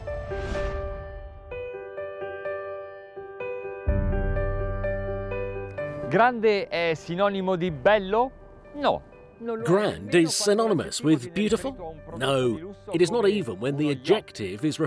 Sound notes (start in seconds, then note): 0.2 soft piano music; 6.4 speaking in foreign language